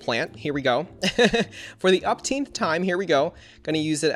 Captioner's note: laughs